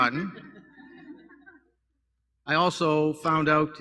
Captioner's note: laughter